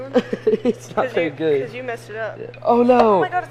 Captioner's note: laughing